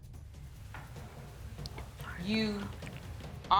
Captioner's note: whispers